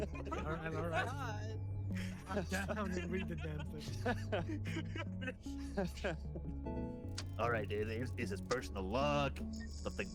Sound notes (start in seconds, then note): 5.6 laughs